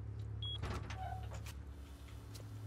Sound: door creaks

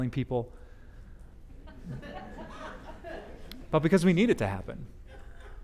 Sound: audience: Laughter

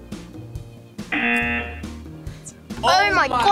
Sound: buzzer

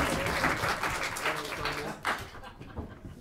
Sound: applause

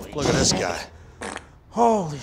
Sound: passing gas

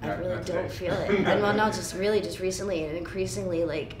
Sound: chuckling

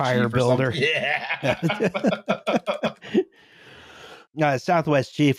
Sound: laughter

